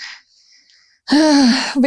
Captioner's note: sigh